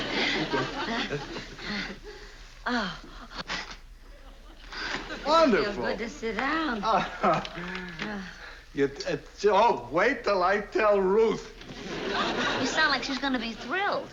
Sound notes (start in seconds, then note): 3.0 panting